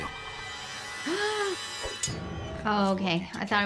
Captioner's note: gasps